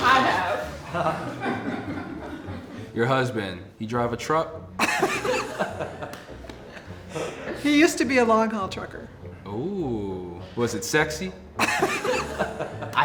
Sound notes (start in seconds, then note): 0.1 laughing; 4.8 laughing; 11.6 laughing